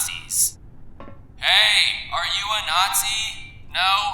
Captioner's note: shouting